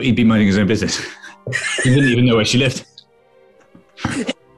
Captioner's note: sniggering